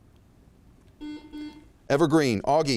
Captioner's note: buzzer chimes